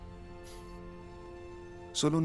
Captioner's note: Faith resopla